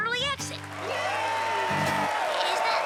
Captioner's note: applause